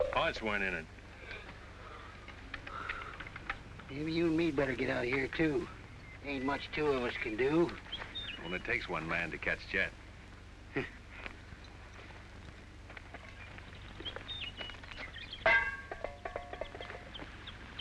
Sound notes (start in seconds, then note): 10.6 scoffs; 15.4 frying pan bangs